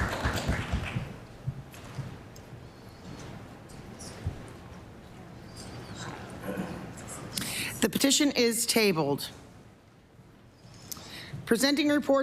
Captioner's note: applause